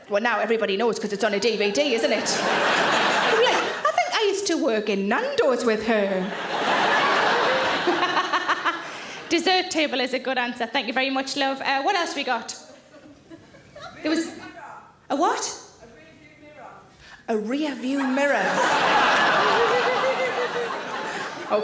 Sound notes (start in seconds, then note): 1.5 audience laughing; 6.1 audience laughing; 8.3 laughs; 18.0 audience laughing